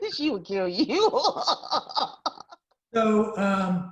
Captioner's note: laughs